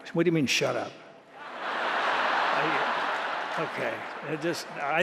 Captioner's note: laughter